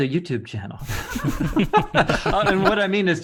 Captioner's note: men laughing